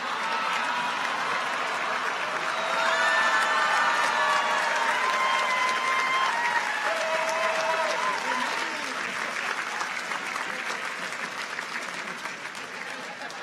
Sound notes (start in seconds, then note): 0.3 audience laughs; 5.2 audience applauds; 5.2 audience cheers